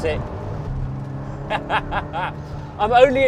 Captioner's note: laughs